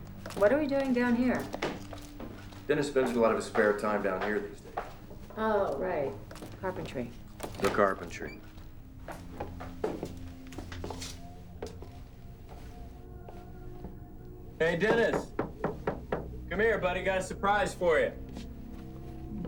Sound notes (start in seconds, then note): 14.8 knocks on door